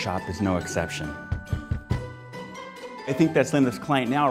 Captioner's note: pounding on door